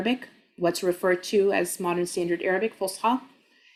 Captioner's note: speaking Arabic